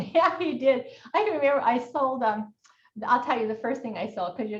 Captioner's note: laughs